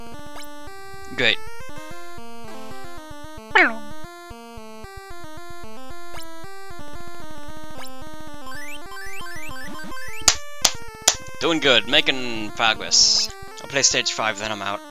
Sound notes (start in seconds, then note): 3.5 imitates the noise that plays when you complete a level; 10.6 clap clap clap